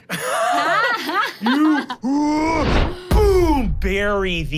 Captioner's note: everyone laughs; grunting loudly